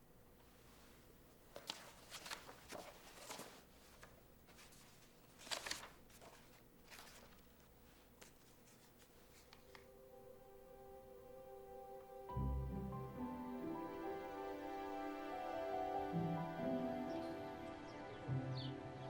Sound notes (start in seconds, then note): 9.0 gentle music; 10.0 birds chirping